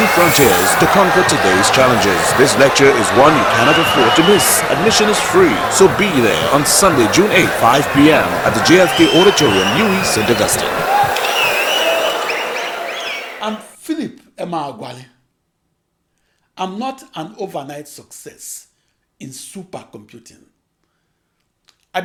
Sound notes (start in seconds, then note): 10.1 wild applause and cheering for 22 seconds